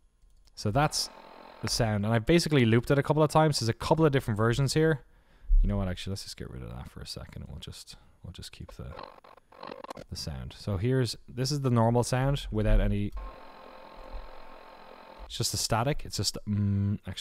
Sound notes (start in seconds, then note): 0.6 static; 8.7 static high tone; 13.1 static high tone; 16.8 hums